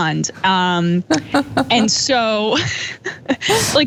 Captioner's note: laugh